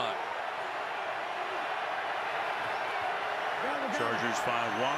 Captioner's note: cheering